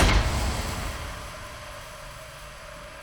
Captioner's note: gas hissing